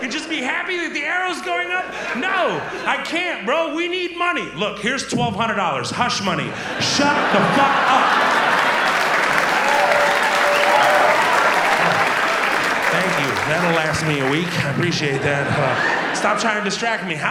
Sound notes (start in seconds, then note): 8.9 audience applauds and cheers